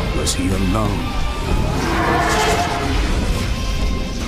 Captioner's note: roars